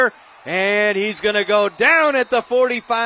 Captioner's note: applause